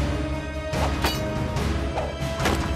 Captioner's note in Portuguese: tilintar